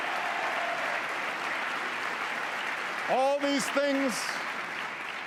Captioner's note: applause